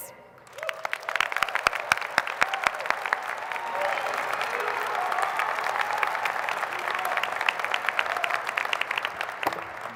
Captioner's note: applause